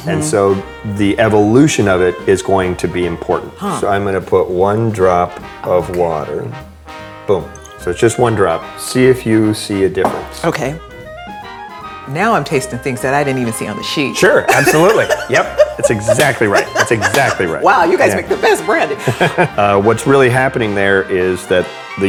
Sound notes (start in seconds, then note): 14.5 laughing; 15.9 claps hands together